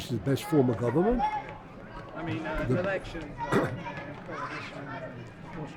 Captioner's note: voiceover